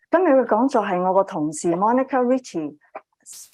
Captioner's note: speaking chinese